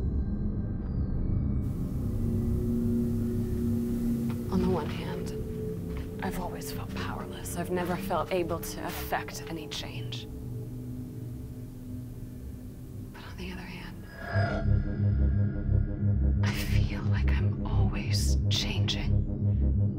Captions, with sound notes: On the one hand, I've always felt powerless. I've never felt able to effect any change. But on the other hand... [pulsing noise] I feel like I'm always changing.